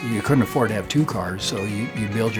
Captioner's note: pat